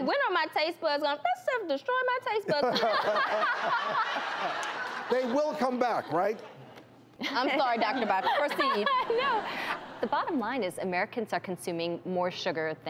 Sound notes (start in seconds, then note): 2.6 laughs